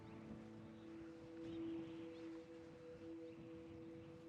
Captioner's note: wind rustling